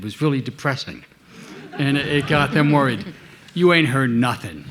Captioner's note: audience laughing